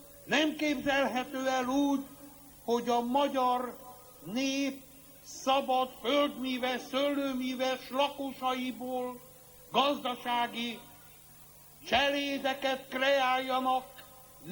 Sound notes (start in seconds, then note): none